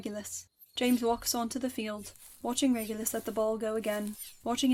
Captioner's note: footsteps crunch on the ground